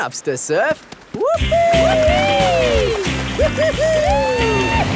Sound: both whooping

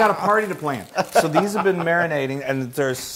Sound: laugh

